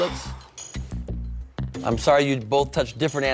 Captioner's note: sighs